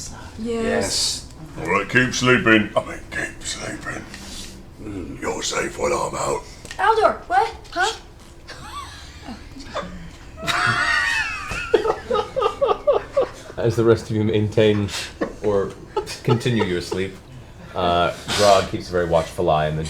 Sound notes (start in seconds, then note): 4.2 whispers; 8.4 laughter